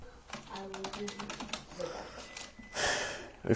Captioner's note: typing